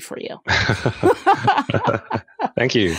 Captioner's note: laughs